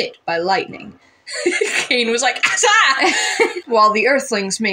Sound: laugh; laughing

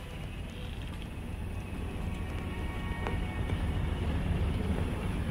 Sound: boat engine noise

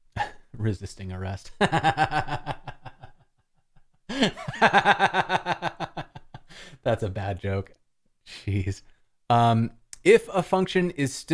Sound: laughter

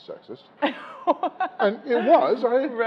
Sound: laughing

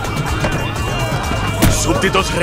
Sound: car door opening

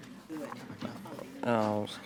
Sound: murmuring quietly

